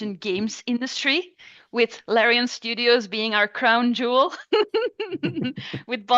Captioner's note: laughs